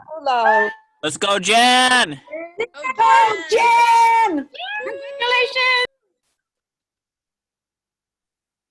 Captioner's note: cheering